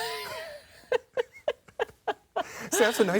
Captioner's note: laughs